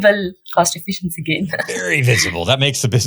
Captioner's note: laughs